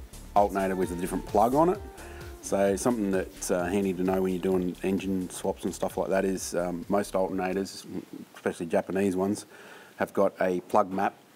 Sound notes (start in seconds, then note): none